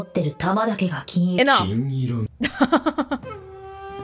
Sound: chuckles

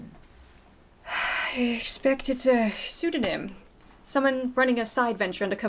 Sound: sigh

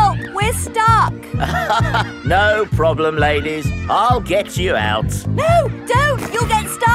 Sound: chuckles

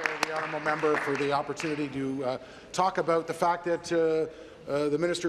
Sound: applause

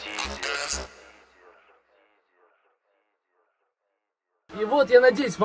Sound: echoing

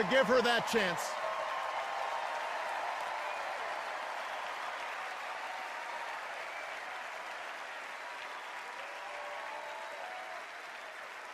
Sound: extended cheers and applause

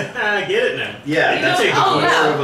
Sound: chuckles

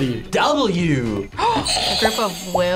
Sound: buzzer rings; gasps

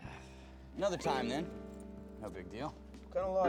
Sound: zipper zipping

